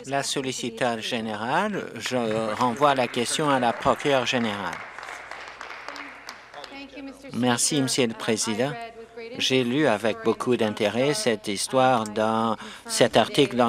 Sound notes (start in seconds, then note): 7.3 applause